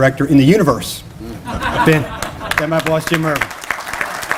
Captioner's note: laughter, applause